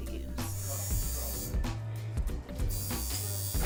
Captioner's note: buzzing